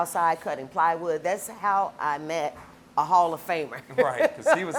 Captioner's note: laughs